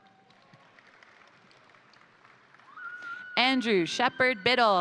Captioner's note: crowd applauding; crowd cheering